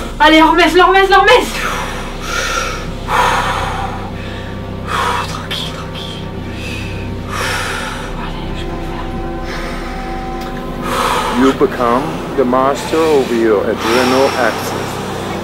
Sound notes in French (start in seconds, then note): 1.4 profonde respiration; 5.1 en chuchotant; 10.8 respiration